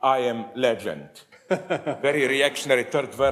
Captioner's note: audience laughs